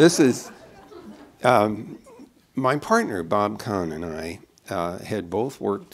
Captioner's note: laughter